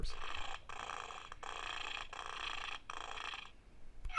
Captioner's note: toy purrs